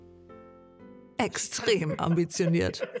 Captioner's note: laughter